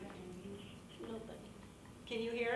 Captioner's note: woman muttering